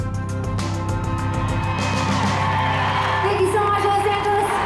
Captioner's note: cheers and applause